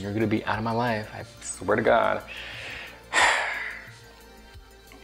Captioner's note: sighs